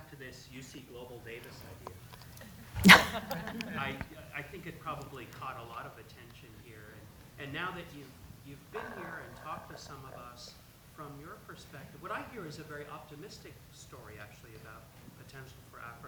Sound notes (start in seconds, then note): 1.4 laugh